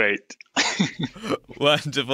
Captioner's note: laughs